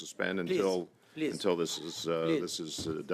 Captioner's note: speaking French